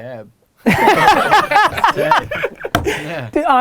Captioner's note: group laughter